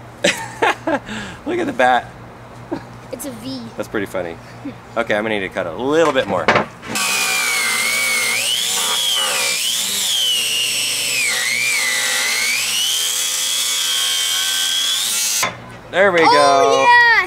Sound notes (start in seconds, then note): 0.2 laughs; 6.8 buzzsaw whirring